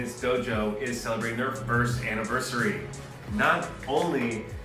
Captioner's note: hand clapping